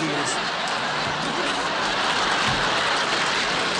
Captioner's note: laughter